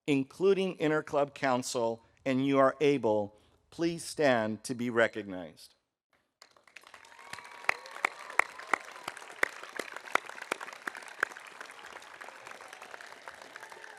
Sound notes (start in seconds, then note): 6.4 audience applauding